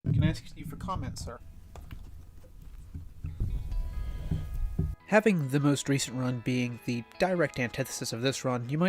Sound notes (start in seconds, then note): 3.9 sniffles